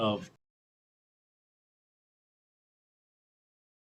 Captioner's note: audio cuts off